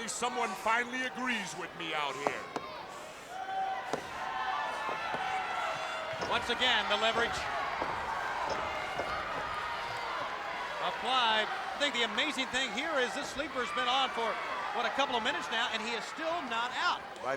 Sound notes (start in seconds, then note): 3.7 crowd yelling